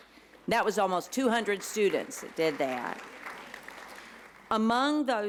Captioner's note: applause